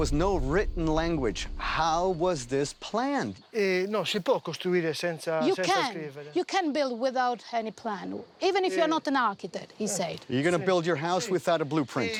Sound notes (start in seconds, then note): 5.3 speaks Italian